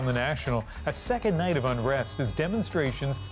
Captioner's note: chanting